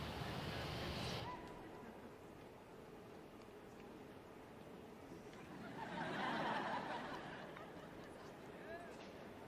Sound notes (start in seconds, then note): 3.4 applause